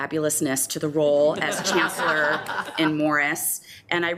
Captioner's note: members laughs